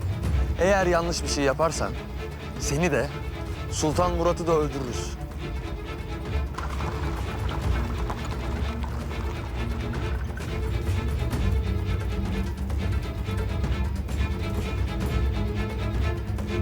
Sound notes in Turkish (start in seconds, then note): 6.2 At arabası sesi; 11.8 Müzik - Gerilim